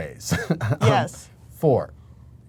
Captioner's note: chuckling